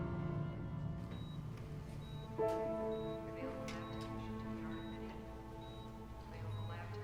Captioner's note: tense piano music; monitor beeping